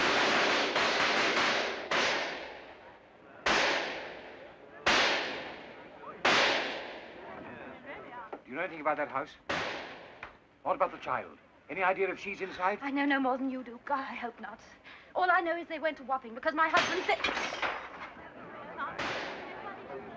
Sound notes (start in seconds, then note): 0.0 gunfire; 18.9 gunshot; 19.0 bullet strikes overhead